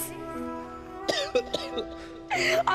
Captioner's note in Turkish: Öksürüyor